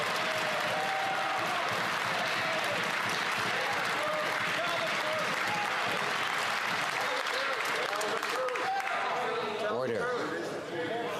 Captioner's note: some Applause